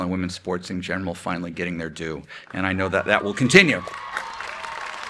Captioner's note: clapping